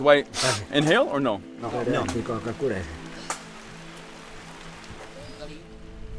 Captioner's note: speaking foreign language